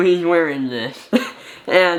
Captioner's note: chuckles